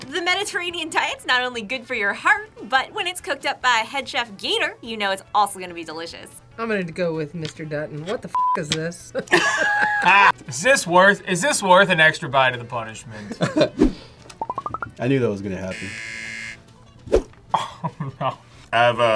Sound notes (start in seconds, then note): 9.1 both laugh; 15.7 buzzer; 17.6 laughs